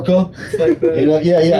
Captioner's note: laughter